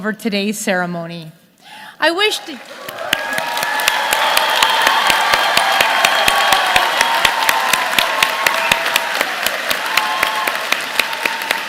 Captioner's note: applause